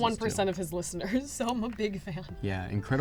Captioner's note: laughs